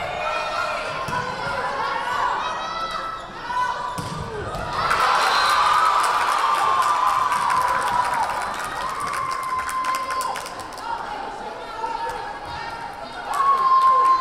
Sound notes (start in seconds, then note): 4.3 crowd cheering; 4.9 whistle blaring